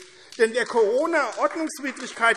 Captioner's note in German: Beifall AfD